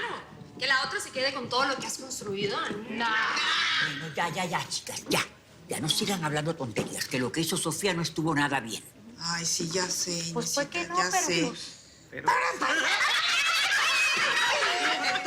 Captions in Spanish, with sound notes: - CLARO, ¿QUE LA OTRA SE QUEDE CON TODO LO QUE HAS CONSTRUIDO? - ¡NOOO! - YA, YA, CHICAS. YA. NO SIGAN HABLANDO TONTERÍAS, QUE LO QUE HIZO SOFÍA NO ESTUVO NADA BIEN. - AY, SÍ. YA SÉ. [Risas] [Gritos y exclamaciones]